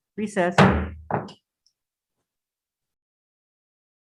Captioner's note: gavel thuds